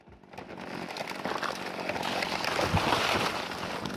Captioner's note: tree cracking